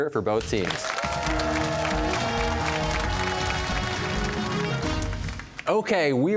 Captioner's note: cheers and applause